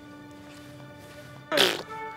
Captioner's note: spitting sound